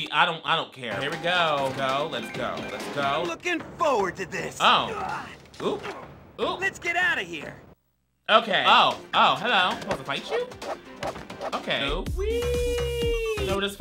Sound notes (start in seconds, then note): 5.0 screams; 11.2 swords whooshing